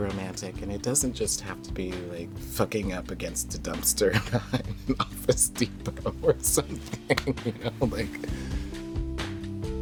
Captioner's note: laughs